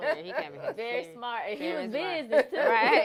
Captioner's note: laughter